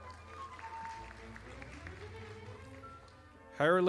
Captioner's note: audience applauding